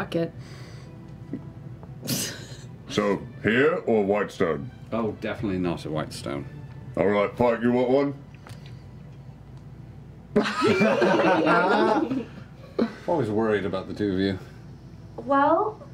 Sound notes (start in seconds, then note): 7.9 laughter